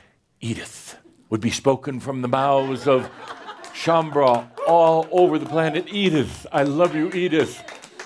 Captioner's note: laughter and some applause